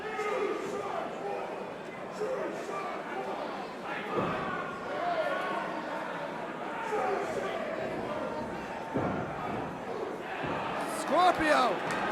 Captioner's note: crowd chatter